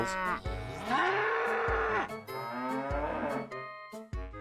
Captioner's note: cows mooing